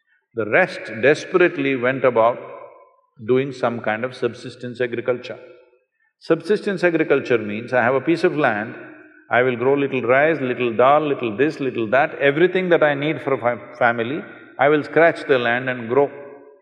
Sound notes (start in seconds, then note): none